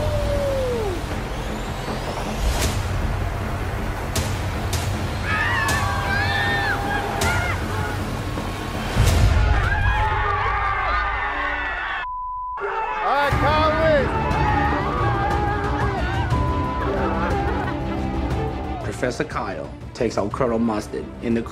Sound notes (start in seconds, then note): 0.1 intense music; 9.1 cheering; 12.0 beep